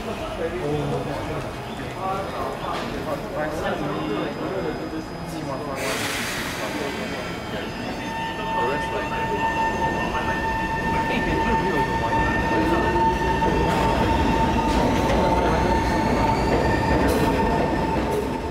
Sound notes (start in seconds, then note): 5.7 train air brake release; 6.7 train starts rolling again; 9.0 train power sound